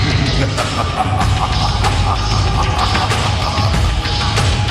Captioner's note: man laughing manically